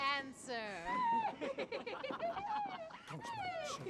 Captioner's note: giggling